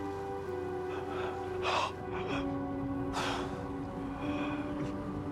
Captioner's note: Walter gasping